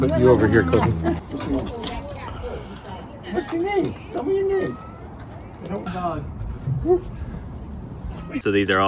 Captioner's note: overlapping chit chat